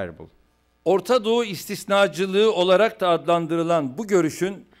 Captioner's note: non-english speech